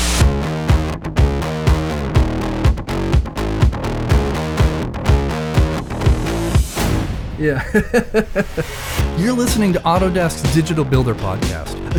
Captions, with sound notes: (upbeat rock music) - Yeah. (laughs) You're listening to Autodesk's Digital Builder Podcast,